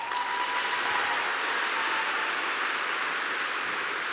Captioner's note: applause